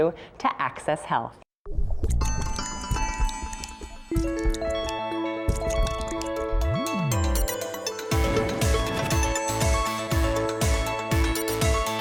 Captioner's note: whisper